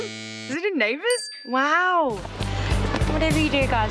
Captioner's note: buzzer blares; bell dings